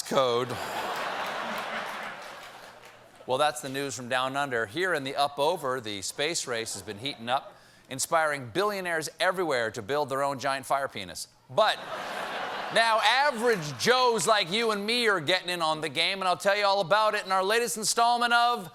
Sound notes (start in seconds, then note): 6.7 laughter; 13.6 echoing